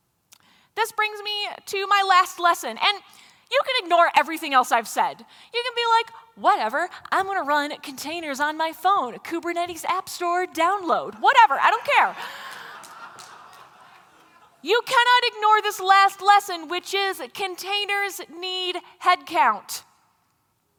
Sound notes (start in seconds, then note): 11.4 laughter